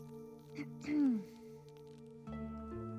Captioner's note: lee clears throat